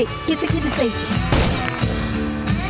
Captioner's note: gunfire